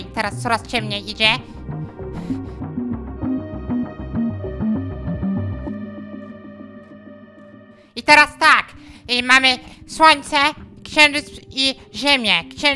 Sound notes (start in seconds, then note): 1.9 gasp